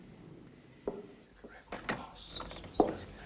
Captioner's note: whispering